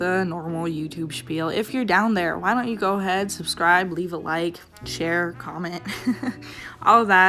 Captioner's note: laughs